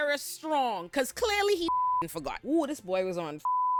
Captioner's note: beep; beep